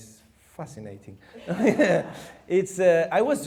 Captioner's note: chuckles